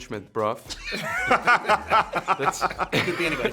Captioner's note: cast laughing